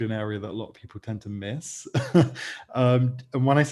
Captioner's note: laughs